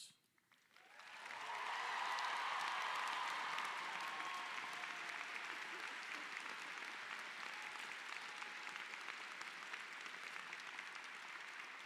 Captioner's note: cheers and applause